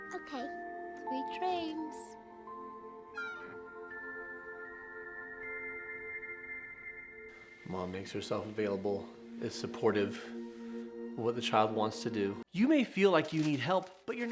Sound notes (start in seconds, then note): 2.8 gentle serene music; 3.1 door squeaking